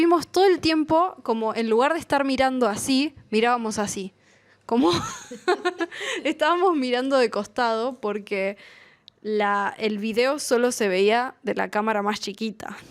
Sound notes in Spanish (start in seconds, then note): 4.8 risas